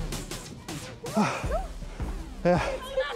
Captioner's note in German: Seufzer